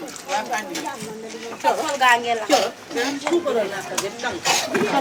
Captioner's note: speaking in foreign language